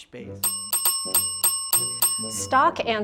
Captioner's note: bell dinging